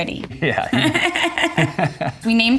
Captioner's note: Kate and Justin laughing